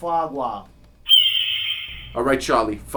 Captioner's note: eagle screeching